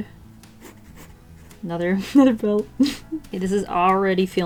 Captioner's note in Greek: χαχανητά